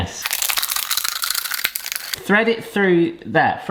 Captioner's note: plastic crackling